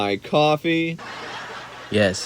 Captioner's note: laughter